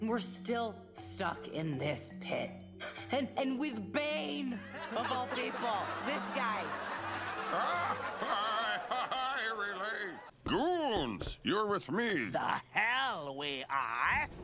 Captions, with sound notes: We're still stuck in this Pit. - A-And with Bane of all people. - (all laughing) This guy. (laughing) I relate. Goons, you're with me. The hell we are!